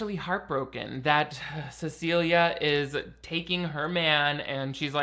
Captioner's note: sighs